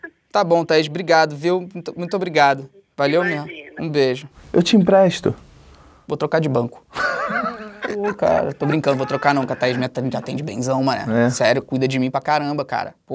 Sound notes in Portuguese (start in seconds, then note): 6.9 risadas